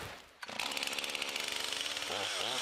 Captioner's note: engine roar